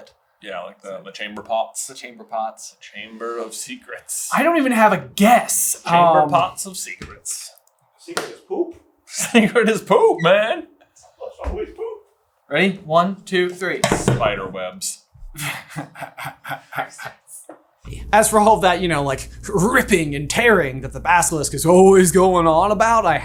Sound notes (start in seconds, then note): 15.3 laughing